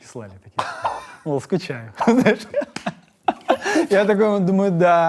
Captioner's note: both laugh